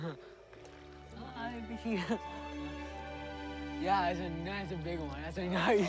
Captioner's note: laughs